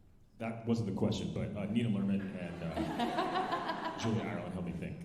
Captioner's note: alumni laughing